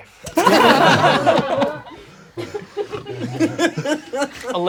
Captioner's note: crowd laughing